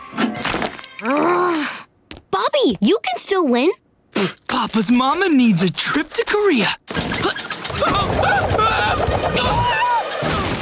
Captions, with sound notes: [groaning] Bobby, you can still win. Papa's mama needs a trip to Korea. [screaming]